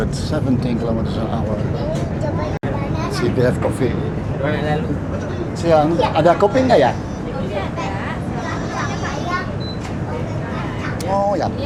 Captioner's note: foreign language